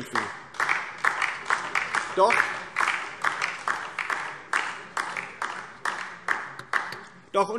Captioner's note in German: Beifall DIE LINKE